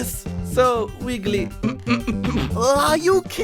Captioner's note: snickering